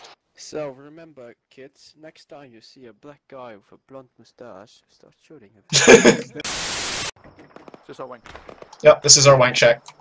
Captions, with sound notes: So remember kids! Next time you see a black guy with a blonde moustache- -start shooting him. *laughter* Is this our wank shack? Yup! This is our wank shack.